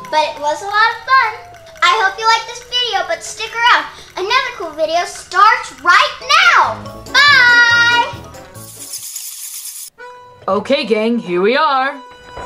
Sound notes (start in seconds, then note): 8.6 bats screeching